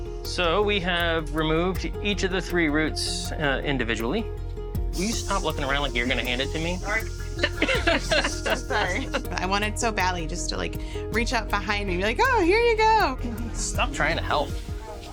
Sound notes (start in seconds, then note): 7.2 all laughing